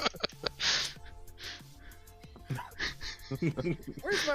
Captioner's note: laughter